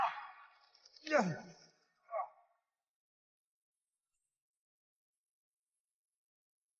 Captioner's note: grunting